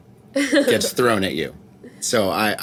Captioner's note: laughing